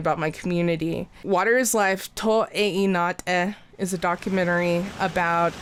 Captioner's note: speaks in foreign